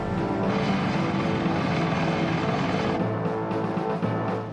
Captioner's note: rotors whirring